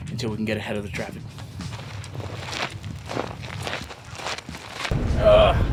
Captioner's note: footsteps on ground; dramatic music plays